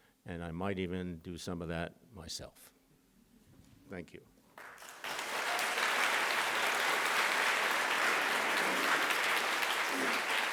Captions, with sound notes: And I might even do some of that myself. Thank you. [APPLAUSE]